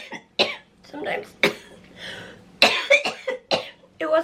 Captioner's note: coughing